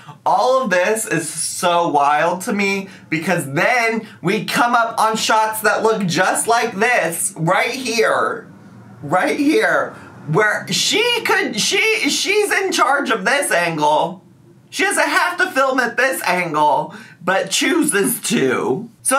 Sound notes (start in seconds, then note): none